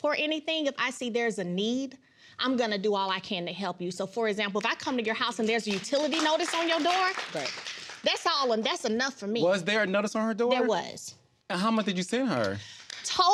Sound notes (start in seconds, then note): 5.4 audience applauding